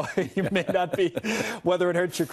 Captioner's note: laughter